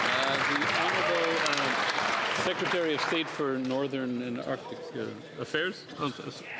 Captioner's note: some Applause